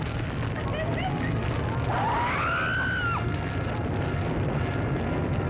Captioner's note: woman screams